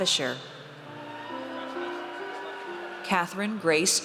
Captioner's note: audience cheers